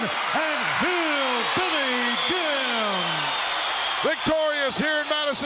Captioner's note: audience cheering